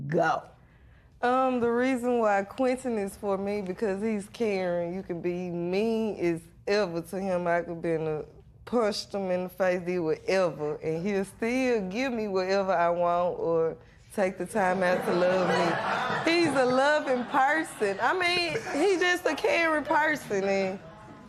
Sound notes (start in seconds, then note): 14.8 laughter